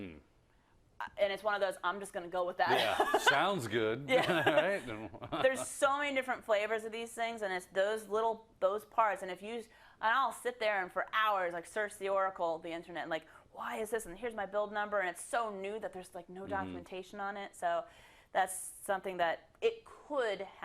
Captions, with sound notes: And it's one of those I'm just going to go with that [LAUGH]. -Yeah, sounds good, [LAUGH] right? -There's so many different flavors of these things, and it's those little, those parts. And if you, I'll sit there and for hours search the oracle, the Internet and why is this, and here's my build number. And it's so new there's no documentation on it, so that's something that it could happen.